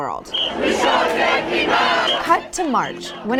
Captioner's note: crowd chants